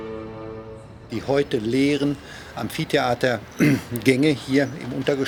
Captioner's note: speaking German